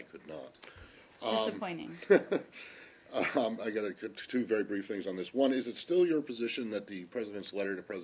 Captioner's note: laughter